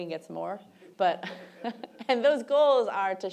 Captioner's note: laughs